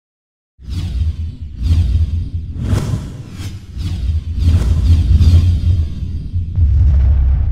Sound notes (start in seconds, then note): 2.4 whoosh